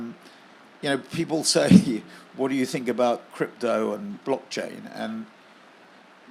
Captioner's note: laugh